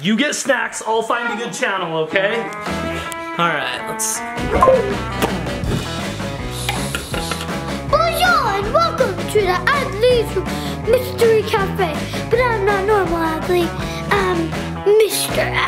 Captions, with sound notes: You get snacks. I'll find a good channel, okay? (upbeat music) All right, let's. (Dad popping) - Bonjour, and welcome to the Adley Mystery Cafe. But I'm not normal Adley, I'm Mr Adley.